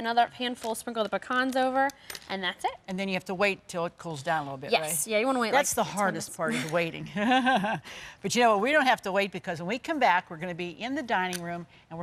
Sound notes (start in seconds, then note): 7.6 laughs